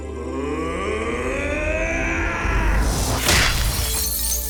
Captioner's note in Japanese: うめき声